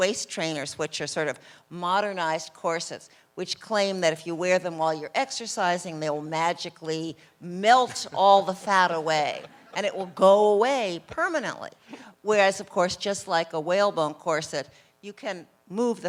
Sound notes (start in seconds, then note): 7.8 laughter from crowd